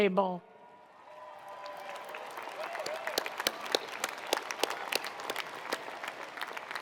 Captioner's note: attendees cheering; attendees applauding